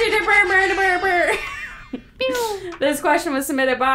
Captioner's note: airhorn sound effect